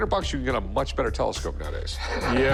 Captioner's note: laughs